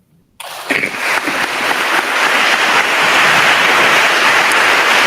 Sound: attendees applauding

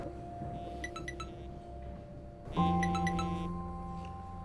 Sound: phone buzzing

